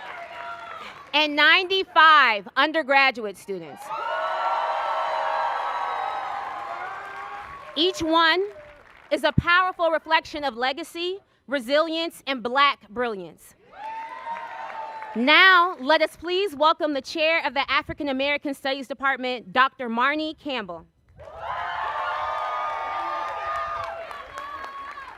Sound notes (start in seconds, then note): 0.1 cheers and applause